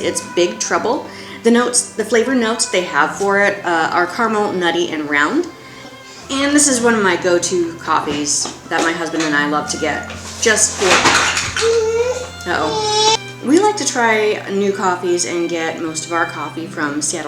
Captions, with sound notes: It's "Big Trouble." The notes, the flavor notes they have for it are caramel, nutty and round. And this is one of my go-to coffees that my husband and I love to get, just for...(off camera CRASH) Uh-oh. (Baby starts to cry.) We like to try new coffees and get most of our coffee